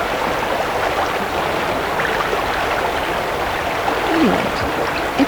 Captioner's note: running water continues